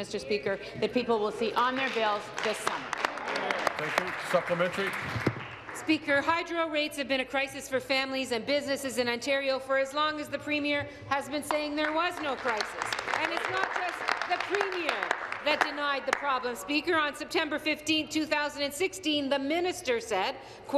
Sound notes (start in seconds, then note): 16.0 applause